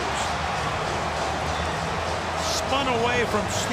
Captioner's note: cheering